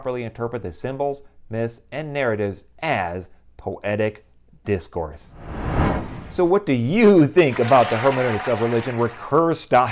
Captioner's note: applause